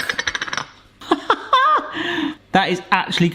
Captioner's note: laughing